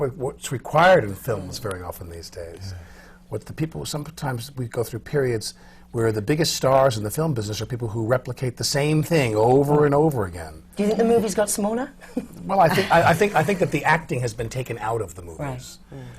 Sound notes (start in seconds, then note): 12.1 laughs